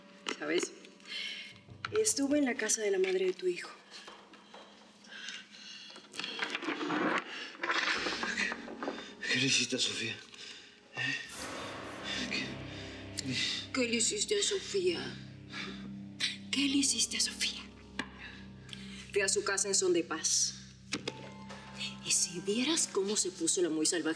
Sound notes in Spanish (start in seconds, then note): 6.1 ruido de las cadenas; 13.7 en tono de burla